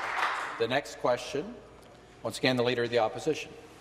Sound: some Applause

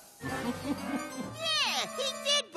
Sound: laughs

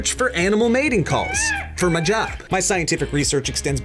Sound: peacock calls

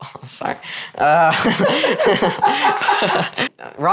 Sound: laughters

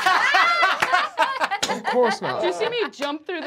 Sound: laughing

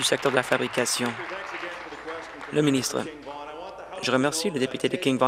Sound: applause

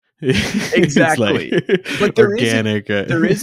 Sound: both chuckling

